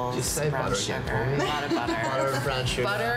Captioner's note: laughing